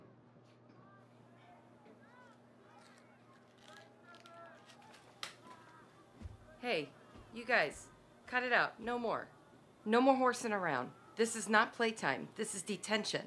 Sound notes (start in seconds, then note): 4.1 paper slaps